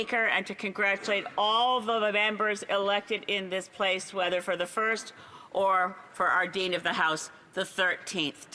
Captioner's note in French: voix de l'interprète